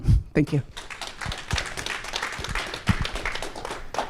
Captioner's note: applause